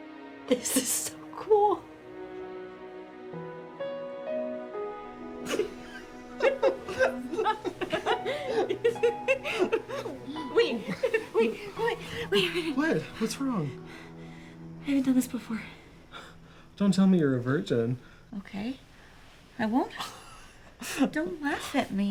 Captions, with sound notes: - This is so cool. (gentle music continues) (Amana and Tony giggling) Wait, wait, wait, wait. Wait, wait a minute. - What, what's wrong? - I haven't done this before. - Don't tell me you're a virgin. - Okay, I won't. Don't laugh at me.